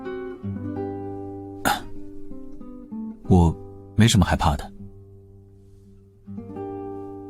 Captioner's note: cough